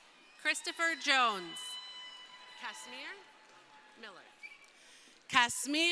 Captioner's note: crowd cheering